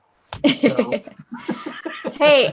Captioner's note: laughter